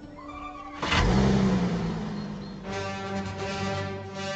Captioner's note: engine roars